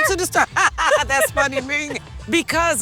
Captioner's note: laughs